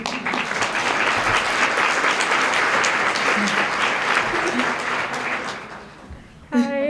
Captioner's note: applause